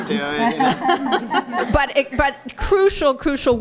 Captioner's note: laughter